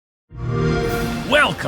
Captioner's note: xbox sound